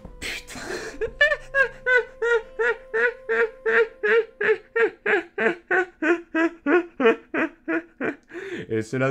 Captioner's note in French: claque sa jambe; Rires